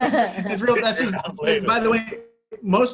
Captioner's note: laughing